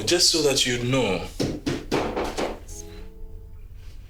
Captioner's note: banging at the door